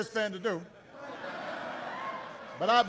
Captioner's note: laughter